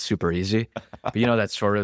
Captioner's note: laughs